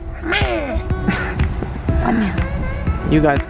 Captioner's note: chuckles